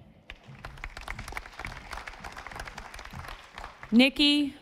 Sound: audience applauding

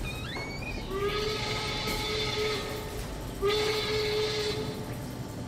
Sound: steam whistle blowing

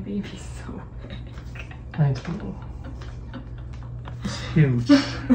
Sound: laughing

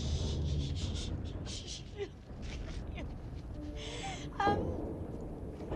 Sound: sobbing

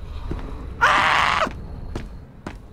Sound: screams

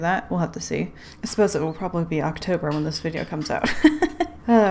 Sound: laughs

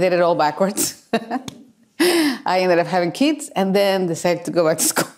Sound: laughs

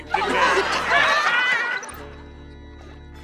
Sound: laughing

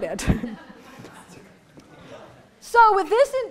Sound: laughter

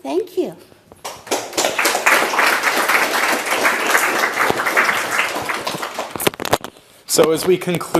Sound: applause

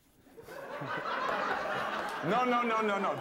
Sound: laughter

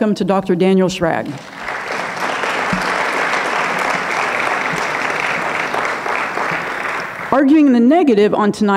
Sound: audience clapping

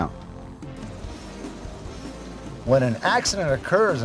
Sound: helicopter engine roaring

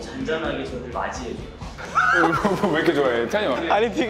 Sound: holding in laughter; fails to hold his laughter

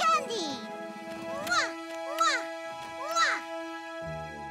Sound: kissing

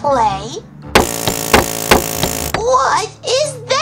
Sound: drilling and hammering

